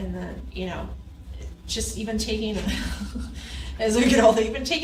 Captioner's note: laughs